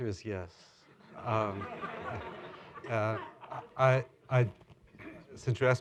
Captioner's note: laughter